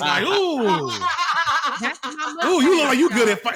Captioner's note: laughter